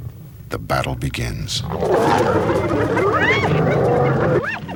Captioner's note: roaring and howling